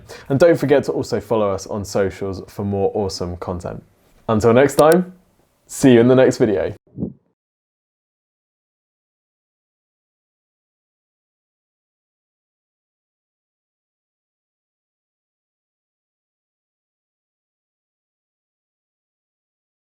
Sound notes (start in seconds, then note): 4.7 mouse clicking